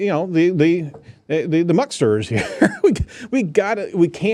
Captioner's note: laughs